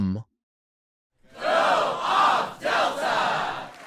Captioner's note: crowd